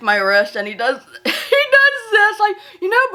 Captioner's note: chuckles